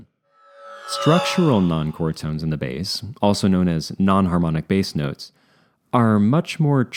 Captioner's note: sci-fi sweep